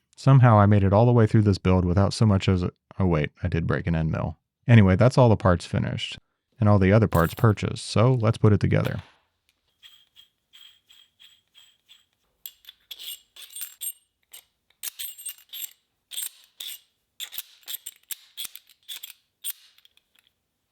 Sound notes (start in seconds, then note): 12.6 metal clicking